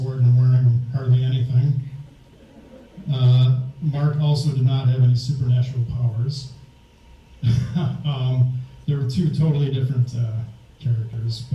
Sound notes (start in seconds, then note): 2.0 audience laughs; 7.4 laughs